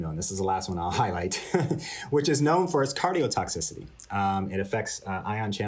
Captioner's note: laughter